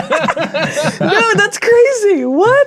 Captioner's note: players laughing